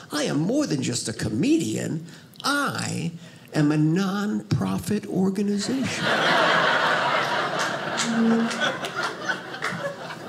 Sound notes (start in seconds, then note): 5.7 audience laughing